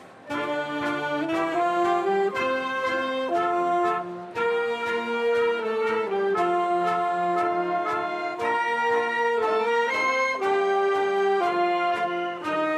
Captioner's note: applause